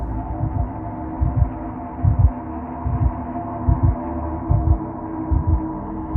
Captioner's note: eerie music; heartbeat